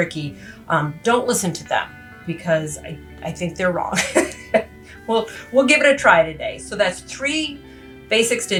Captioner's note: laughs